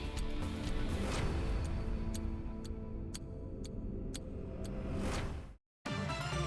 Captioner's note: clock ticking; dramatic music; upbeat music